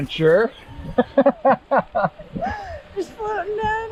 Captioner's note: laughs